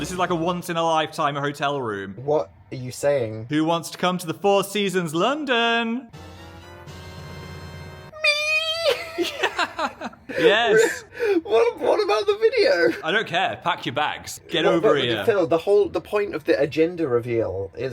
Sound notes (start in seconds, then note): 6.0 bright excited music; 8.4 both laughing